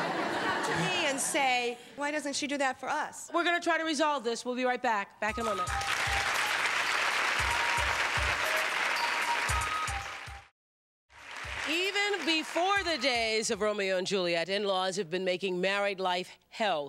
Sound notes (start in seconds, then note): 6.4 applause